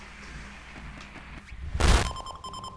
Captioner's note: static